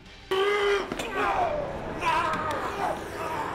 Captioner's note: both grunting